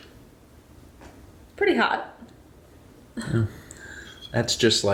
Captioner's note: wheezes